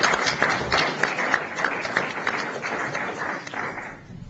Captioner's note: applause